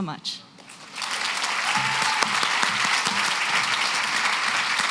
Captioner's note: applause